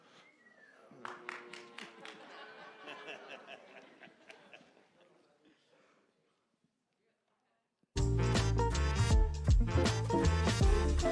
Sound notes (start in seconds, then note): 0.7 light applause; 8.0 light music